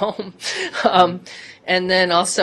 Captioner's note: laughter